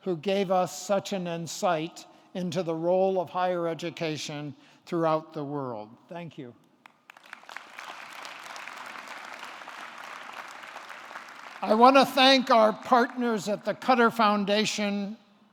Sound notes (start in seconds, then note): 6.8 audience clapping